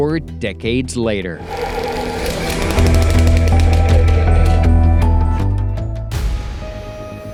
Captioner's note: frantic music; projector whirring; tense music